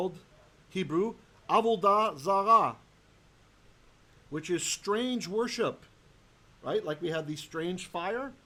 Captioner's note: Hebrew